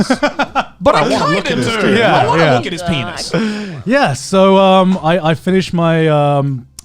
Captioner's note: laughing